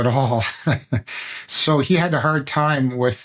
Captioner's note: laughter